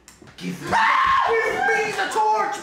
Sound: screams

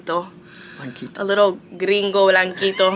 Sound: speaks Spanish

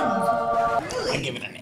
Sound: record scratch

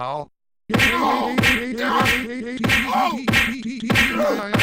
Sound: fighting and yelling

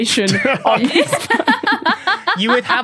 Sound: group laughing

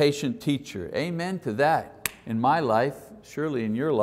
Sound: claps

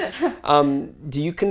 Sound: laugh

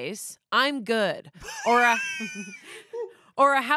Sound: laughs

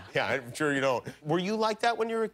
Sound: laughter

